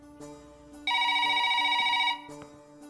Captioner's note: Phone rings